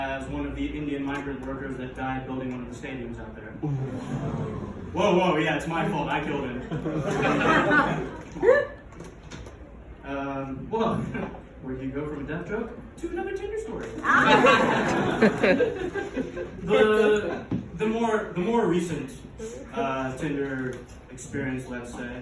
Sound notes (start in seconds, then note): 3.6 audience Groans